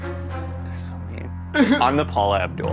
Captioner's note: suspenseful orchestra music; laughing